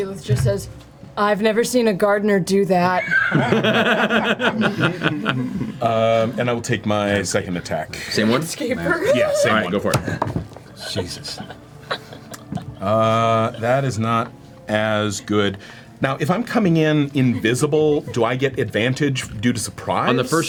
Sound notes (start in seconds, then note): 3.0 all laugh; 8.1 laughs